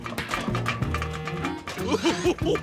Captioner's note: chuckles